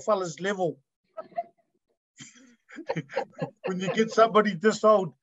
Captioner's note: speakers laugh